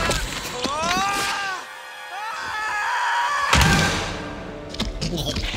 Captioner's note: Hercules screaming